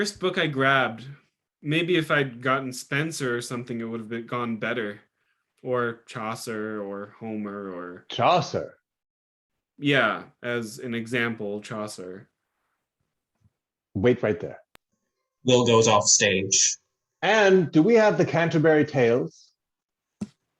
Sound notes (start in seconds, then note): 14.3 silence